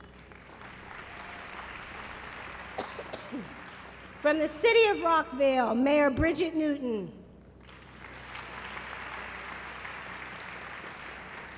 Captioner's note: applause